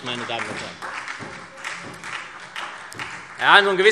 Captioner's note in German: Beifall SPD und Freie Demokraten